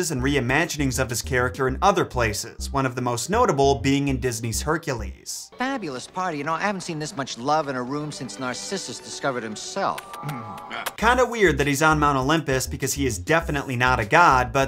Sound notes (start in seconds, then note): 10.1 Narcissus' lips smacking